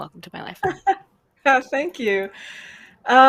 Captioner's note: laughs